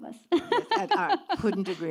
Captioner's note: laughs